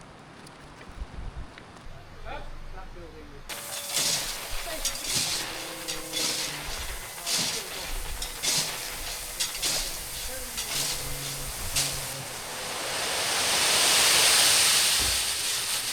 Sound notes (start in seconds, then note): 1.7 wind blowing; 3.5 drill whirring